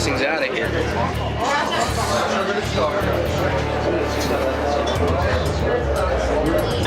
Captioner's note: bar chatter